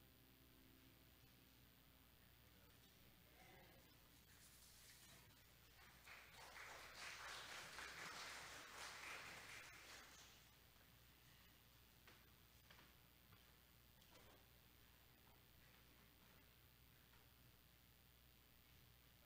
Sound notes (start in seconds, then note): 5.6 audience applauding